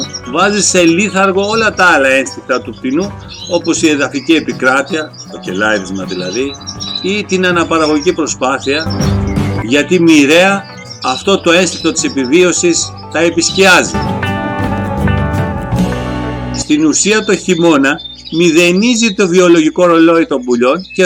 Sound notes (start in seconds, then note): 5.6 chirping